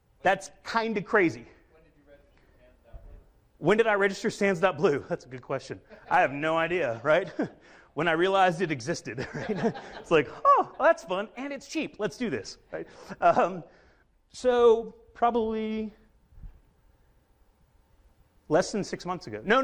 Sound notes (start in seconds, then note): 9.1 chuckles